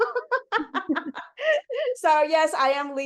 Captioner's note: chuckles; laughs